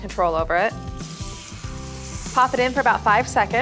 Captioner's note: sizzling